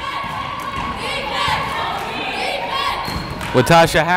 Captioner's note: cheering